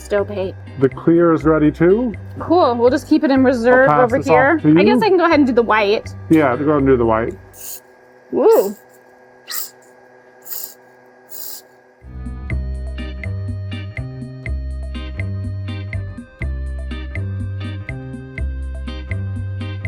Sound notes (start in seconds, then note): 10.4 air hissing; 12.2 smooth music